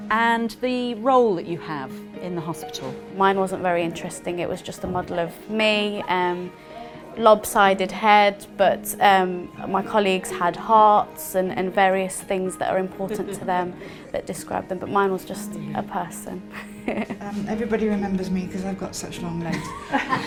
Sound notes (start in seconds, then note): 16.5 laughs